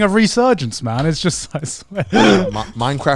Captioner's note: laughing